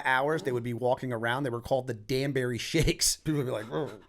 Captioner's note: chuckle